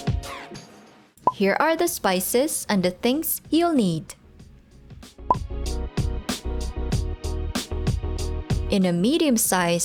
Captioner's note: bottle pop, music